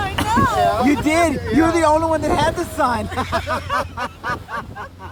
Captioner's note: laughter